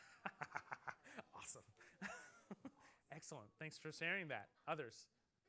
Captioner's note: laughter